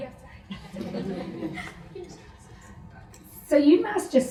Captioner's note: audience laughs